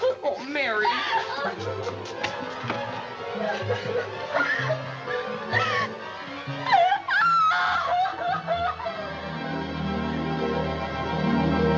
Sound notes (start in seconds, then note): 1.6 sobbing; 6.6 cries louder